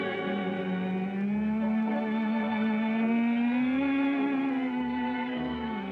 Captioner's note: humming